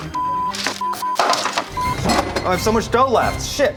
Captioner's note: beep